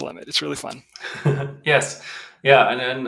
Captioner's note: chuckles